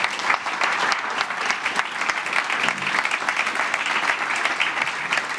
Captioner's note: applause